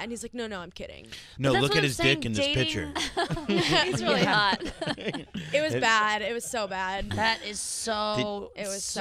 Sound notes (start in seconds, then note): 3.0 laughing